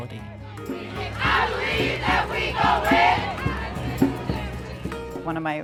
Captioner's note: crowd chanting